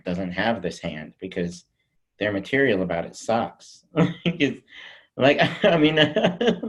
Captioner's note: laughs